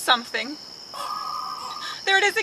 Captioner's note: mysterious cry echoing